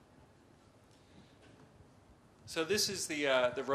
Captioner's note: pause